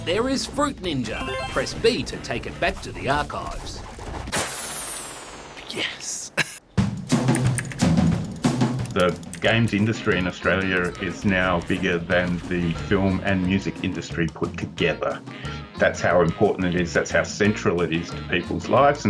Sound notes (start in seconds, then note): 3.7 whizzing